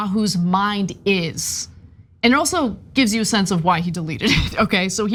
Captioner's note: laugh